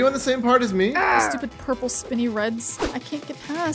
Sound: groaning

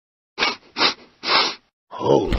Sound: sniffs

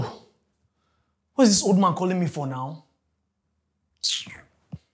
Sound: kisses lips

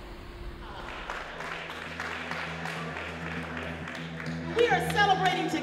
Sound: audience clapping

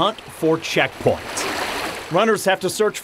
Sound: water flowing

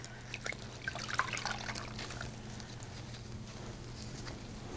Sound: water trickles

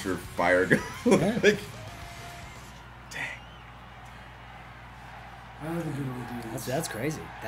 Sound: laugh

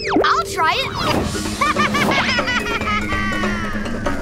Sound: laughing

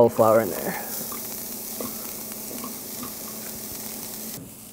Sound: sizzling

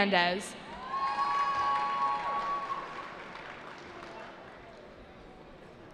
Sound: cheering

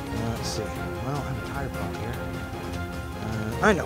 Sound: speaks faintly

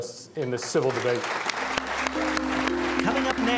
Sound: applause

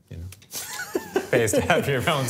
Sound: laughter

